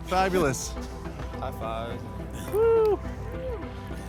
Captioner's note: crowd cheering